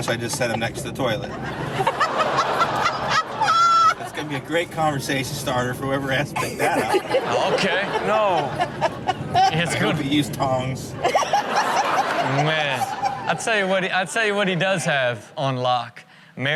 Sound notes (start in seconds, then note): 1.8 cameraperson laughs; 11.1 cameraperson laughs